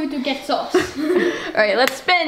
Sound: laughter

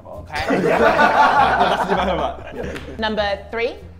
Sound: Sidemen laugh

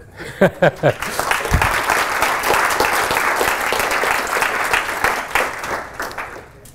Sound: applause

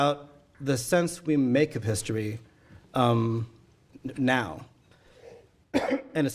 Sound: coughing

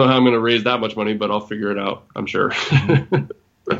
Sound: laughs

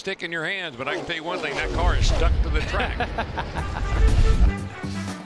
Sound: laughs

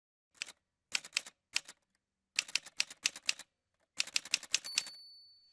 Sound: typewriter sounds

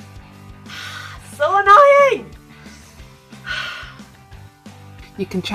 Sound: sigh

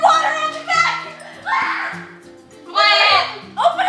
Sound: screams

